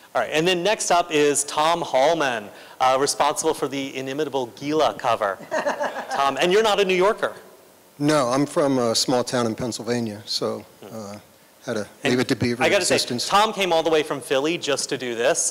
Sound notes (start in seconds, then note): 5.4 laughter